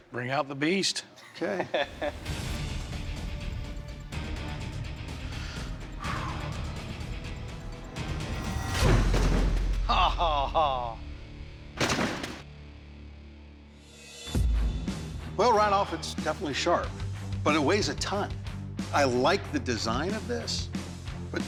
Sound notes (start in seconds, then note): 9.9 laughs